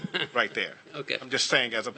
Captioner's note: laughter